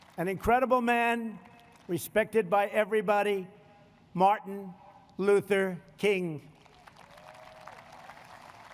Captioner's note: applause